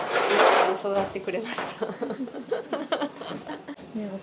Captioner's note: laughs